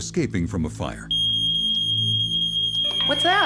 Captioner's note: smoke detector beeping